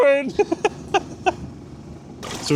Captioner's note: laughs